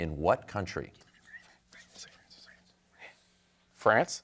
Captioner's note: team whispering